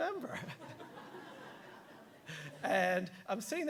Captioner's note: audience laughing